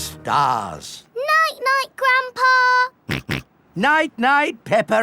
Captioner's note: snorts